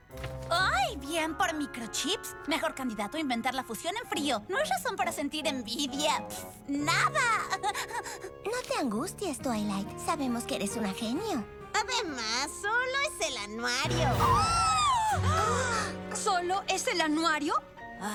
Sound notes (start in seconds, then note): 14.8 gasps all around